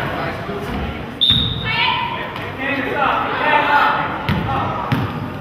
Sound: whistle blows

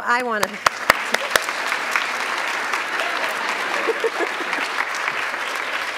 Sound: clapping; audience clapping

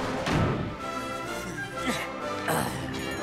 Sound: grunting

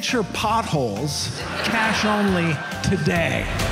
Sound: audience laughs

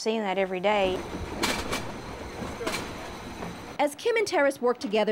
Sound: rattle of box gliding across rollers

